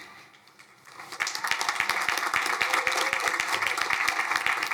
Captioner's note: crowd applauding